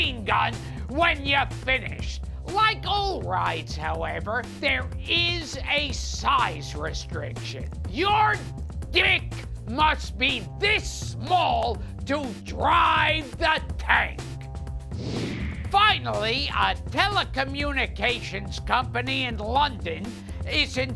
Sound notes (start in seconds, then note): none